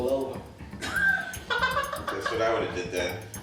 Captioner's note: laughs